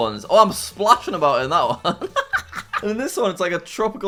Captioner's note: laughs